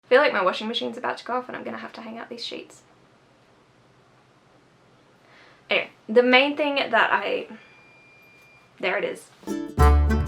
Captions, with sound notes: I feel like my washing machine's about to go off and I'm gonna have to hang out these sheets. Anyway, the main thing that I - *washing machine beeping* There it is.